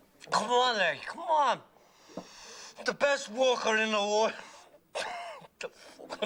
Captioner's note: Risas